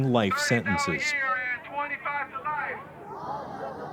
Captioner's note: chanting